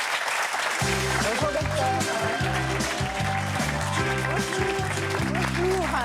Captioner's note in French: applaudissements